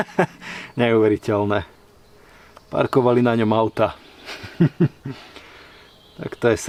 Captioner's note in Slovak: smiech